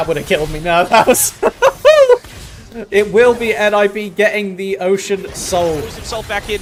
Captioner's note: laughter